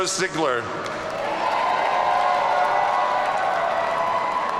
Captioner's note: audience cheering